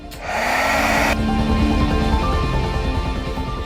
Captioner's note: whirring